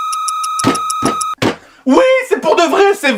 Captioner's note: knocking on the table